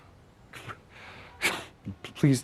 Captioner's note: chuckles